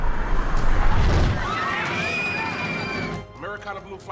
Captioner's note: screaming